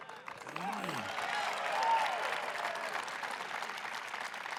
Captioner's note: audience laughing and clapping; audience cheering